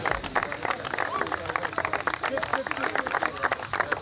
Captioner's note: claps